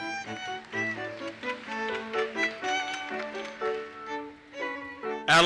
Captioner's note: audience applauses